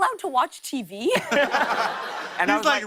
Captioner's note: laughter